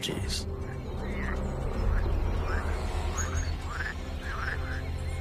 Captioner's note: frogs croaking